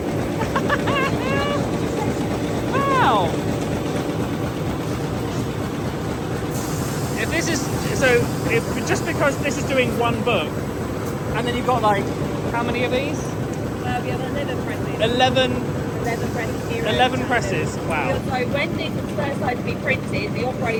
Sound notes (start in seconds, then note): 0.3 laughing; 2.2 machine whirring drowns out speaking